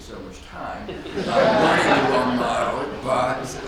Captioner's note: audience laughs